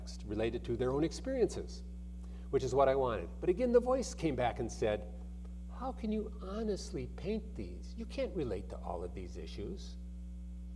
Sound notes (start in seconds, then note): none